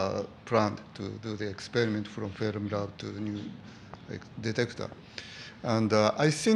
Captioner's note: murmuring